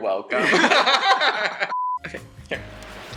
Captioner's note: laughs